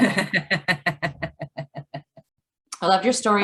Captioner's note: laughs